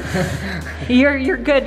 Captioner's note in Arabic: يضحك